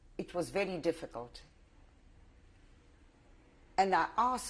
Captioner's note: pauses for 3 seconds